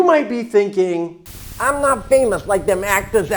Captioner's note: static crackling